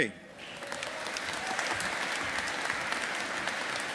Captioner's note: audience applauding